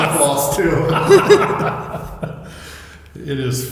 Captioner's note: laughing